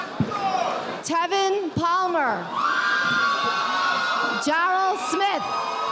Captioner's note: audience applauding